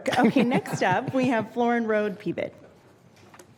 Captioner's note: laughter